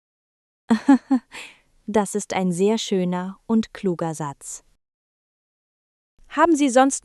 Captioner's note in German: laughs